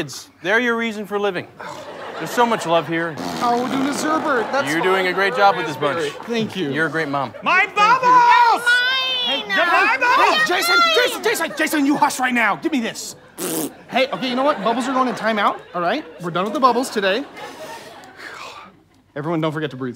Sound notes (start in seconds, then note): 3.0 blows a raspberry; 13.3 blows raspberry